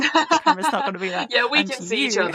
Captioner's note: laughs